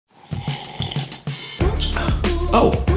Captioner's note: annoying slurp